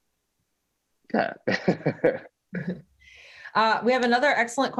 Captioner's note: laughs